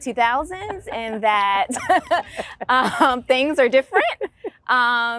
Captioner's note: laughing